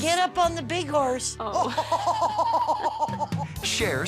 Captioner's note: laughs